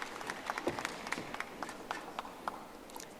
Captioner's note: audience applauding